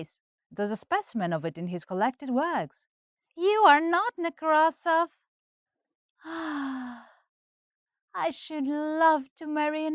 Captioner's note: A sigh